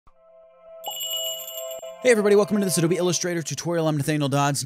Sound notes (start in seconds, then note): 0.7 magical jingle